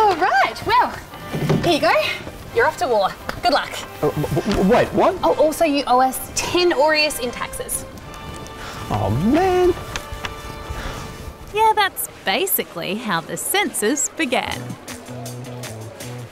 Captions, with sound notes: Alright! Well, here you go. You're off to war. Good luck. Um, wait, what?! Oh, also you owe us 10 aureus in taxes. (SIGHS) Oh, man! Yeah, that's basically how the census began.